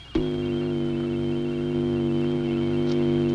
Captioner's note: buzzing